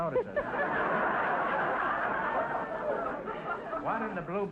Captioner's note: audience laughter